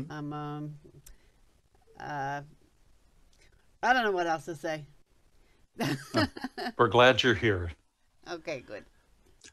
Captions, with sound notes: I don't know what else to say. (laughs) - We're glad you're here. - Okay, good.